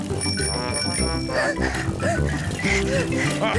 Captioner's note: rings bell and pants; giggles; chuckles